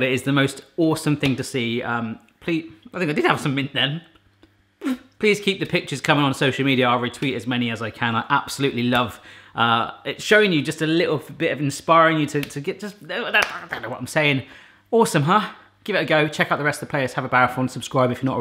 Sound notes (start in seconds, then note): 4.8 spitting noise; 12.6 speaks jibberish